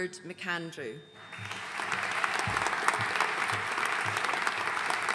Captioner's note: audience applauding